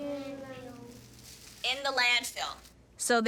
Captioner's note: children murmuring